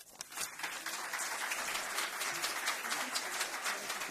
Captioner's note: applause